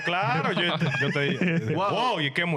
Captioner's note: laughing